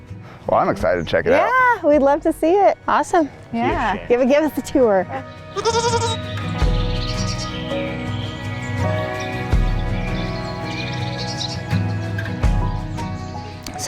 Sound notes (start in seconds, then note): 5.5 goat bleat